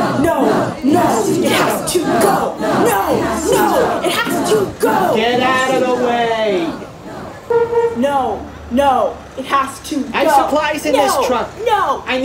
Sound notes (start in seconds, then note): 7.4 horn honking